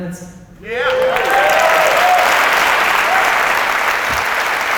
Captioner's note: applause